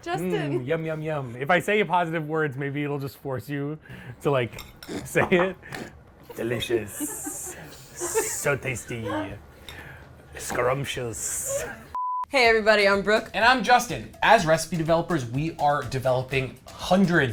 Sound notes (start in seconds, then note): 6.3 laugh; 12.2 color bars beep